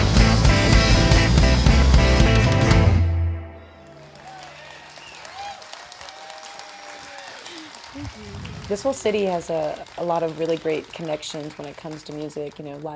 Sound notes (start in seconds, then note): 0.0 fast rock music; 3.8 audience cheering and applauding